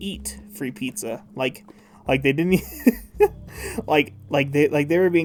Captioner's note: laughing